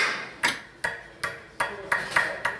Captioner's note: hammering